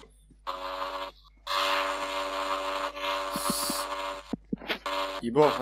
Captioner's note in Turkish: Elektrikli testere gibi bir motosiklet sesi geliyor